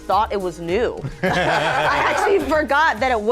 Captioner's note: all laughing